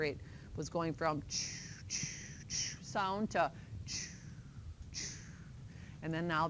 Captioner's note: heart rate sounds